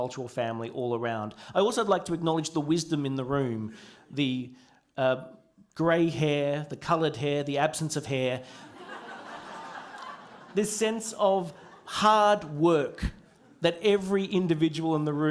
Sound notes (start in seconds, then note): 8.6 laughter